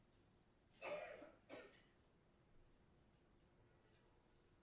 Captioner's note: coughs loudly